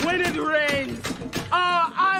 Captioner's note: warriors yelling